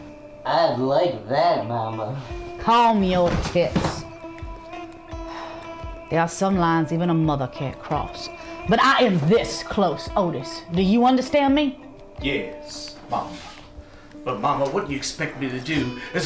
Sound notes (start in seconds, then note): 4.7 sigh